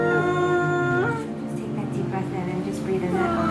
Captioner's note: moaning